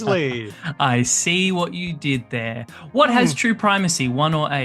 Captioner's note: chuckles